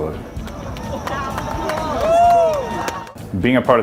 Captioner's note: cheers